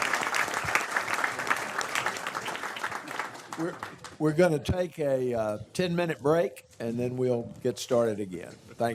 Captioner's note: applause